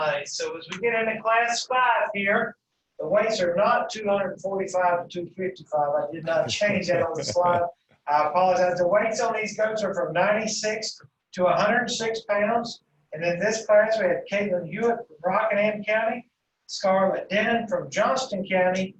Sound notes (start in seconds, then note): 6.2 laughing